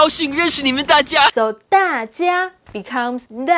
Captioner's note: speaking in Mandarin